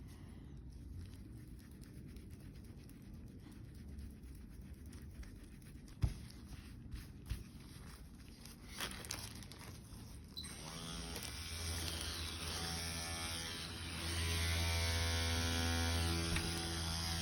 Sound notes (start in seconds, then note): 10.4 machine whirring